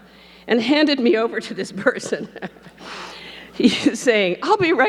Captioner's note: laughs